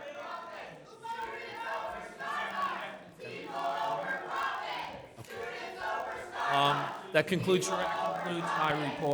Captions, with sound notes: (students chanting) That concludes our report.